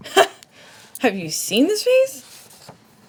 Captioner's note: laughs